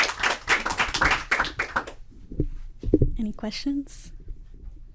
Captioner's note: applause